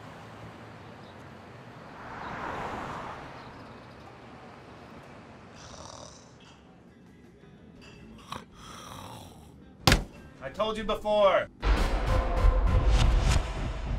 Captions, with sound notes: *snoring* *slamming on the bar* I told you before *sound FX*